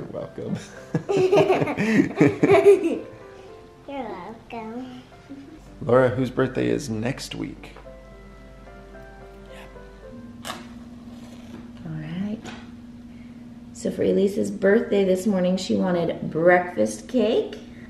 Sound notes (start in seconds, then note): 0.6 laughs